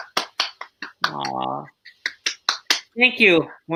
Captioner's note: clapping